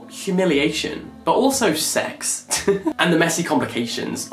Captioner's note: laughs